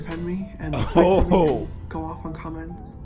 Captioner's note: wat da hell laugh